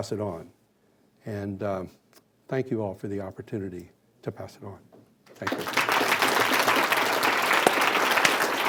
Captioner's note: clapping